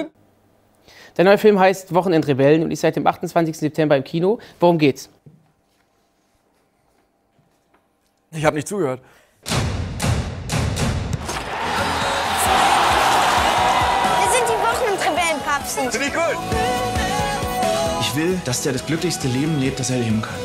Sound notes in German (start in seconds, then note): 9.4 Trommelschläge; 11.2 Stadionlärm, Jubel